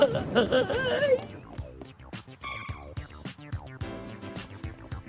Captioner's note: crying